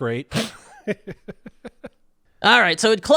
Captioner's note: laughing